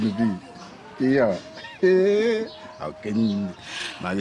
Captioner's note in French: rires